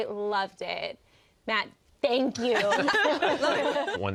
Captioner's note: all laugh